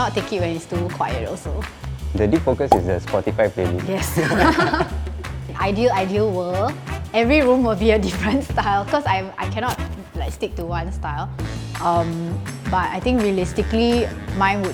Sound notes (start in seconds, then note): 4.0 laughs